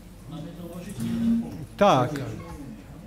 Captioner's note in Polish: głosy z sali